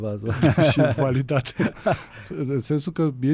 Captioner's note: laughter